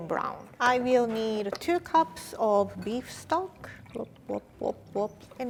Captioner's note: imitates pouring sound